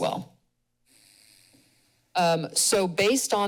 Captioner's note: pause